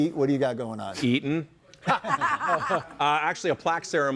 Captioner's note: group laughs